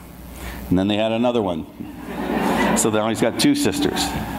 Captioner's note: audience laughs